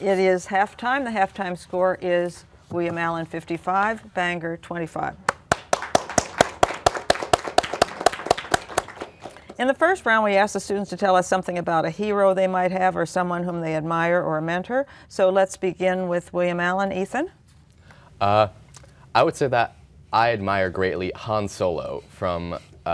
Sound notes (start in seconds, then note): 5.3 applause